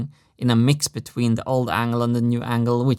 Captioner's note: none